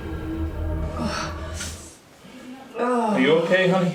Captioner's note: Margaret groaning